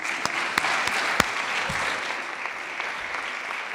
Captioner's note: clapping